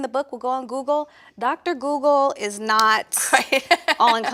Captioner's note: laughs